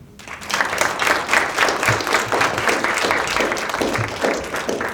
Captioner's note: students applauding